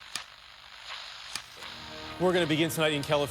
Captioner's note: static crackling